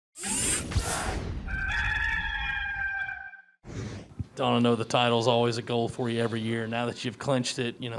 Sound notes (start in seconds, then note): 0.2 robotic whirring; 1.4 rooster crows